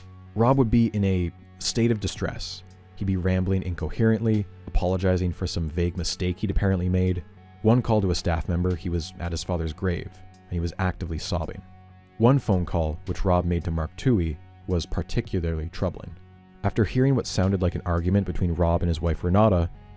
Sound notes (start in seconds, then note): none